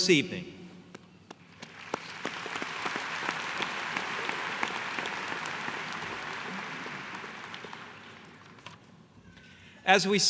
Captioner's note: applause